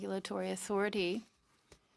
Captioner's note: speaking in French